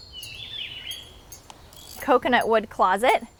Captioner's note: birds twittering